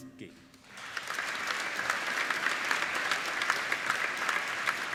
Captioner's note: applauding